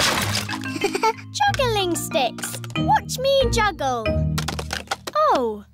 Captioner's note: chuckles